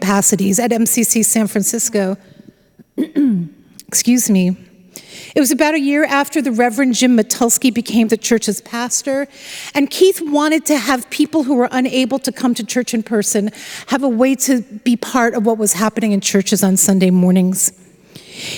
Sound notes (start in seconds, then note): 2.9 clears throat